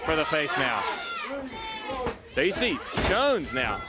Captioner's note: crowd chatter